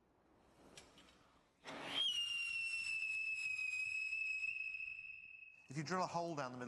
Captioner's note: whistle shrieking